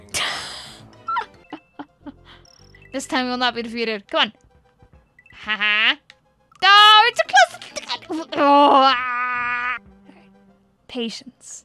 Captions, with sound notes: (laughter) This time we will not be defeated. come on. Haha! (pain noises) AAAAAAAA Patience. Come on.